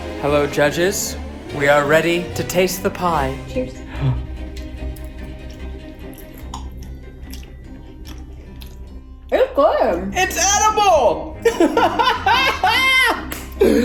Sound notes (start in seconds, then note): 3.9 gasp; 5.7 dramatic music; 11.4 laughing